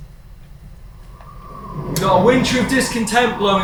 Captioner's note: wind howling